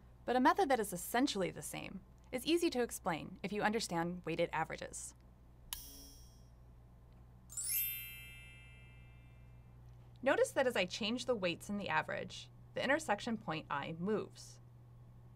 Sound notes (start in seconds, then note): 7.5 bell